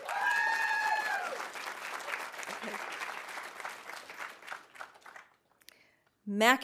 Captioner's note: audience cheering; audience applauding